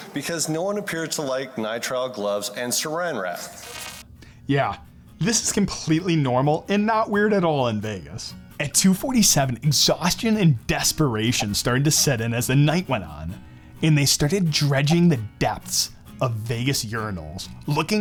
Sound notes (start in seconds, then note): 3.5 electric buzzing